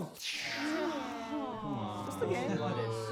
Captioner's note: groans